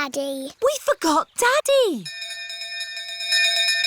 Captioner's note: bell continues dinging